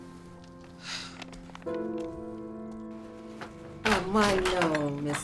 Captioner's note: Stephen sighs